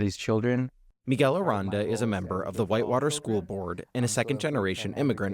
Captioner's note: voice-over